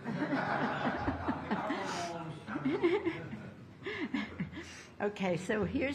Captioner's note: laughter